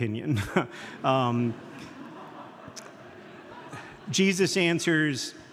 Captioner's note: audience laughing